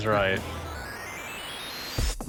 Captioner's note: video game noises